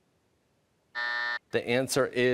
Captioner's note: buzzer